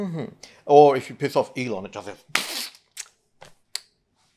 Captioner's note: squelches